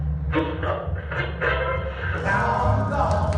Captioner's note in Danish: radio knasende